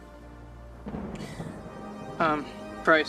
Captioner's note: thunder in distance